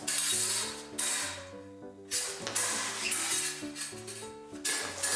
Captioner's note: metal clanks